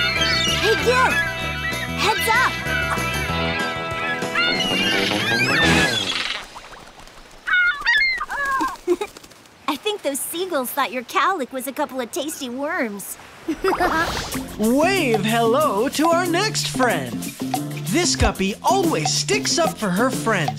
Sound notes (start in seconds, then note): 2.5 squawking; 7.5 squawking, giggling; 13.5 laughing